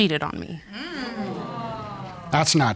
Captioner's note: audience groans